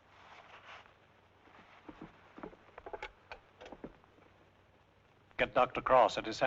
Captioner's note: newspaper rustling; receiver rattling